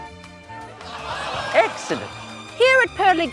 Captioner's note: audience groans